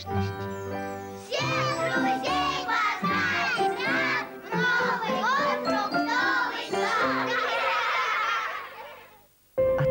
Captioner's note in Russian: смех